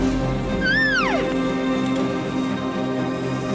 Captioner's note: cow calling